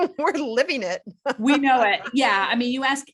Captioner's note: laughs